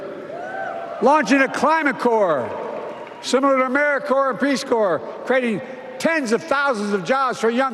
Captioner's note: applause